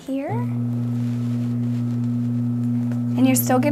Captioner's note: motor buzzing